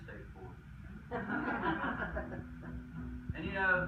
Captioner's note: crowd laughs